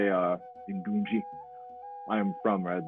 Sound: speaks foreign language

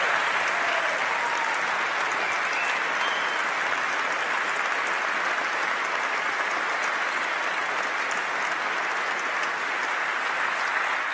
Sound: applause

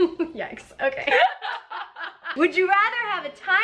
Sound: laughs; both laughing

